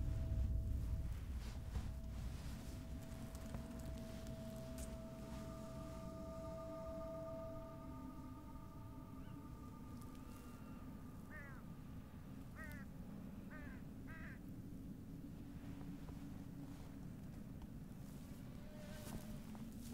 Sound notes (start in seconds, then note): 11.6 bird caws